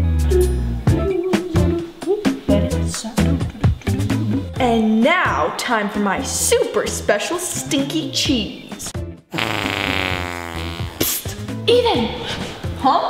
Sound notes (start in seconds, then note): 2.0 sneaky music; 9.3 rasp berrying